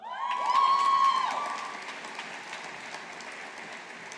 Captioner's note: audience applauding